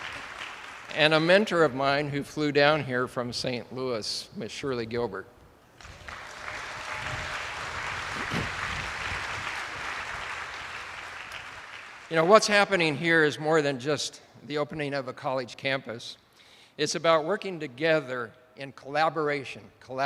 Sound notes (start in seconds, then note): 5.8 attendees applauding